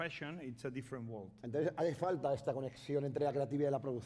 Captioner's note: speaking spanish